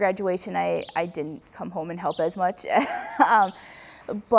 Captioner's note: laughs